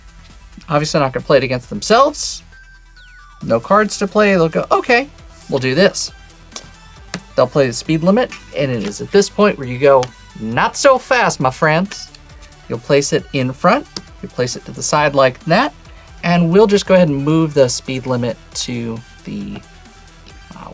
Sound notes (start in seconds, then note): 6.5 card slaps